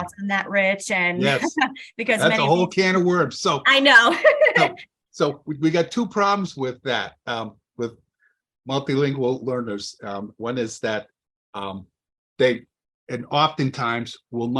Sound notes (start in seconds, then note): 4.2 laughs